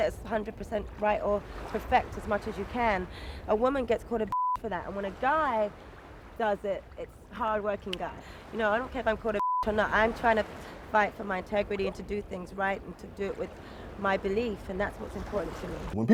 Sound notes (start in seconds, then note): 4.3 beep; 9.3 beep